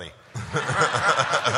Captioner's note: laughter